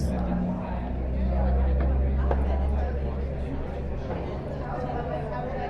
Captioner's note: people talking in a cafe